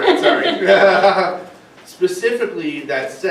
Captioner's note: laughing